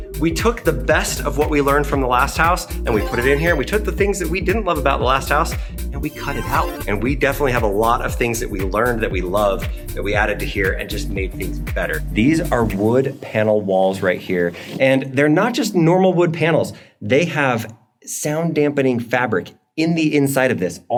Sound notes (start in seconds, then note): 2.8 chiming tune; 6.5 humming tune